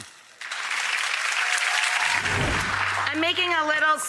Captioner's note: applause